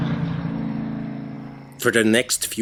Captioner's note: night sounds